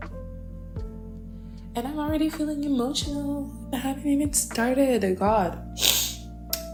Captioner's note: sniffles in dramatic